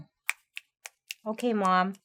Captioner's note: snapping fingers